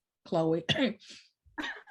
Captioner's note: coughs